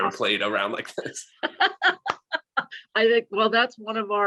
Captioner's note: laughter